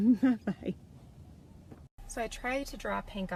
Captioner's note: giggles